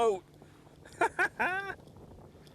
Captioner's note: laughter